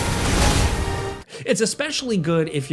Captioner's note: weapons slash